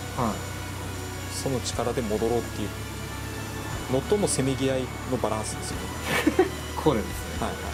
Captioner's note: laugh